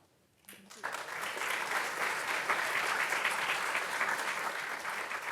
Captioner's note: audience clapping